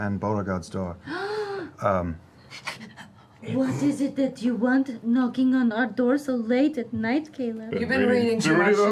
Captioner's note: gasps